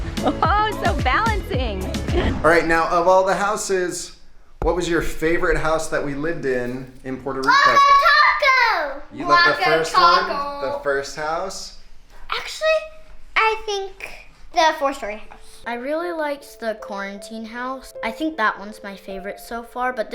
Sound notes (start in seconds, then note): 1.9 wooshing; 2.0 laughs happily